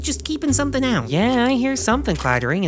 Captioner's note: rattling footsteps